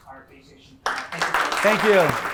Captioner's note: applause